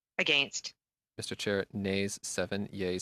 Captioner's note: speaking French